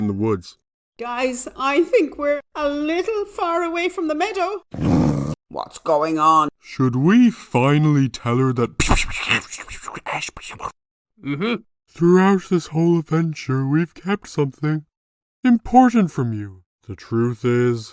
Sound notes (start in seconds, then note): 4.7 wolf growls; 17.3 exhales